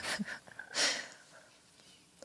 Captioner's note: laughs